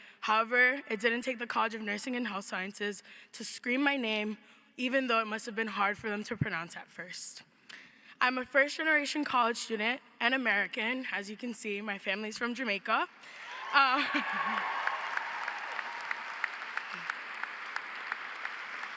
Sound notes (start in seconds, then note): 13.4 audience cheers; 15.9 audience applauds